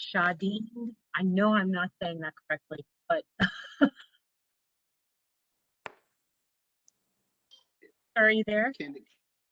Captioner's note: laughter